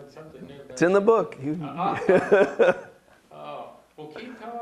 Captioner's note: all laugh